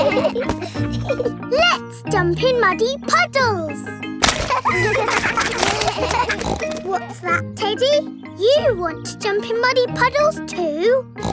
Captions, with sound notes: Let's jump in muddy puddles! (KIDS LAUGHING) (SNORTS) What's that, Teddy? You want to jump in muddy puddles too?